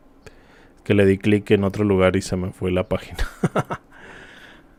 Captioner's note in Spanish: risas